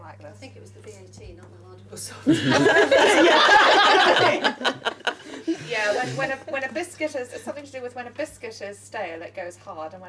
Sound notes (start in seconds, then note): 2.3 laughing